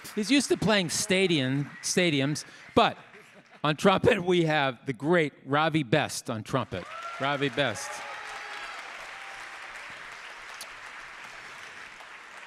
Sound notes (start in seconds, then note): 6.7 audience cheering; 8.7 audience applauding